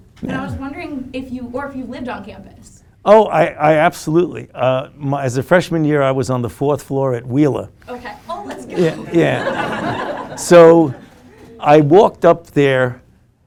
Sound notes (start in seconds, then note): 8.6 laughing